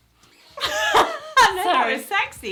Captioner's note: laughs